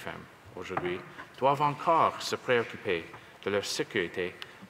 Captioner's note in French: voix de l'interprète